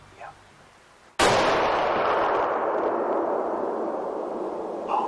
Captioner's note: gunshot